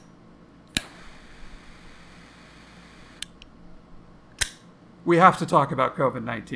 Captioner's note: cigarette lighter sparking